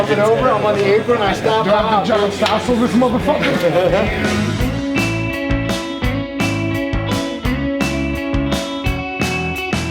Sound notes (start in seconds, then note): 2.7 laughs; 5.2 funky music